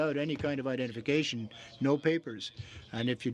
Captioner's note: speaking French